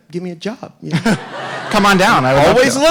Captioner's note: audience laughing